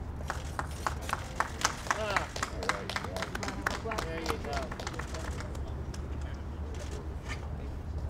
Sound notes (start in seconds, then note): 0.2 audience clapping